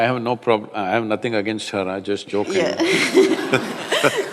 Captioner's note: laughter